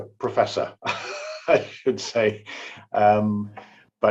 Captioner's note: laughs